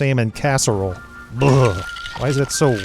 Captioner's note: shudders